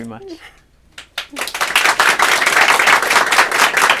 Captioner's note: applause